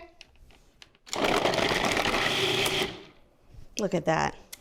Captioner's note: device buzzing